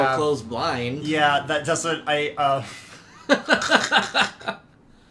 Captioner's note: laughing